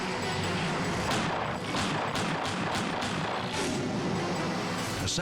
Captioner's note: dramatic music; gunshots firing